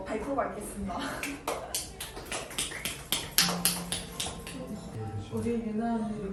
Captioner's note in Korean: 박수!! 박수!!